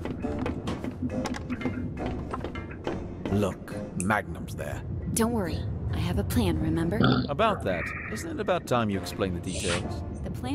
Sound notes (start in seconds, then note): 7.0 belches